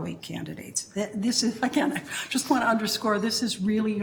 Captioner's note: chuckling